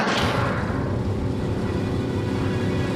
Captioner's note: rumbling